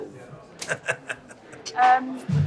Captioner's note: laughs